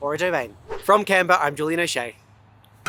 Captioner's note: air whooshing